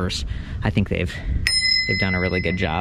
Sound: bell rings

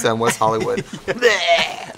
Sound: laughing

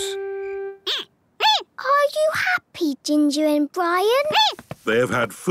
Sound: squeaking

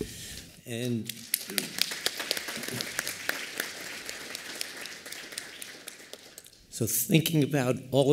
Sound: applause

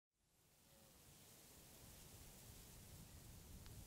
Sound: crackling sound

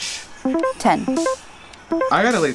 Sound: cell beeps

